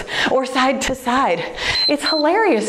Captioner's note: timer beeps